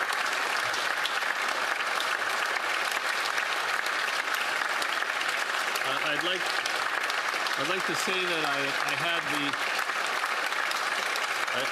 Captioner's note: applause